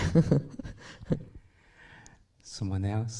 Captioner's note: laughs